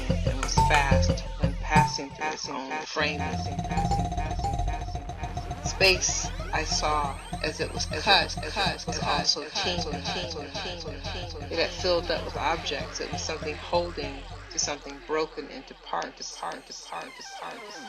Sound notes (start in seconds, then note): 3.1 echoes; 3.7 xylophone plays; 9.2 echoes; 11.1 echoes; 17.2 echoes